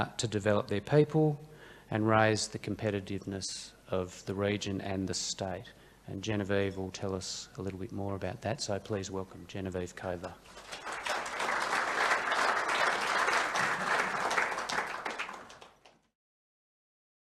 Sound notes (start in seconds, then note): 10.4 audience applauding